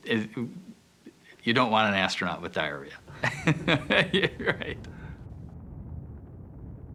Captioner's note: laughs